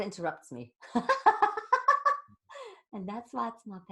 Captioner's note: laughing